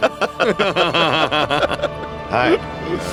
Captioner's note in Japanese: 笑い